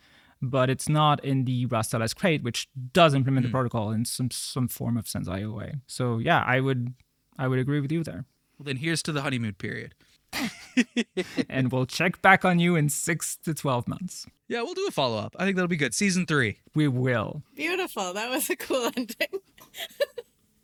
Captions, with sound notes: Rust LS abstractions. But it's not in the Rust LS crate, which does implement the protocol in some form of sense IOUA. So yeah, I would agree with you there. Well, then here's to the honeymoon period. (Laughing) And we'll check back on you in six to 12 months. Yeah, we'll do the follow-up. I think that'll be good. Season three. We will. Beautiful, that was a cool ending.